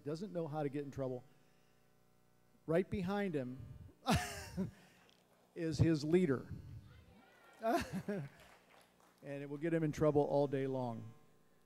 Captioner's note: laughs